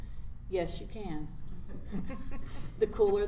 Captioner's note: laughs